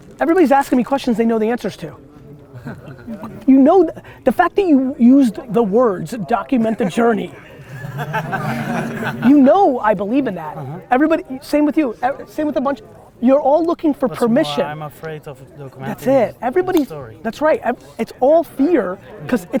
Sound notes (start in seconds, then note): 6.5 group laughter